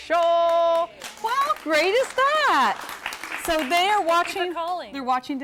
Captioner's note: �applause�